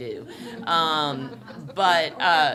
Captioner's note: laughter